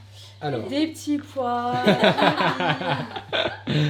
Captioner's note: laughs